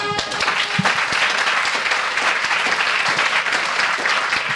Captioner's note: audience applauds